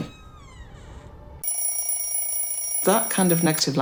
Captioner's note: alarm ringing